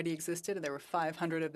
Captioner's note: speaking French